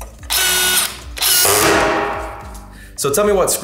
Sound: drill screeching

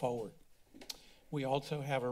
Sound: clicks tongue

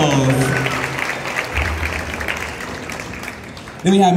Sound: cheers and Applause

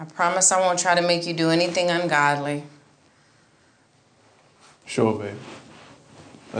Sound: none

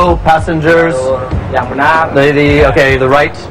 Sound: speaking indonesian

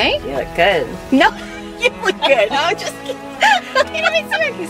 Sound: both laughing

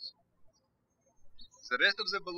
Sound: birds chirping

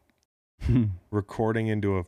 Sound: laughs

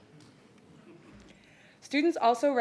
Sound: audience chuckling

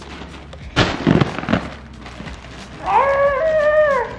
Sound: plastic rustling

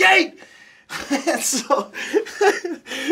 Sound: laughs

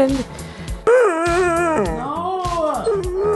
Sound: dog crying

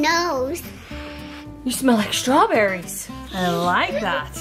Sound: mom sniffs

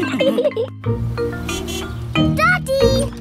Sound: horn honks

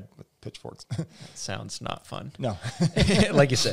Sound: laughs; laughs

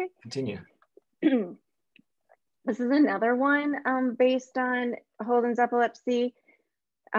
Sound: clears throat

